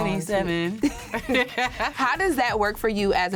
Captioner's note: laughs